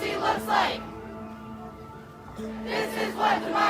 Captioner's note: ghostly Voice